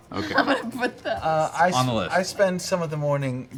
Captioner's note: laughs